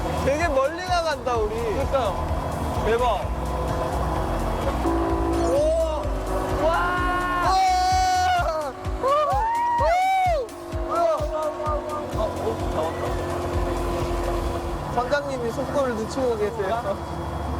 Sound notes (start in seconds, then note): 6.7 screaming; 12.3 the engine gets quieter